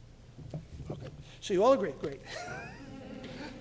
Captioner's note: laughs